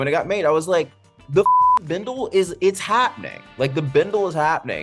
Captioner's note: beep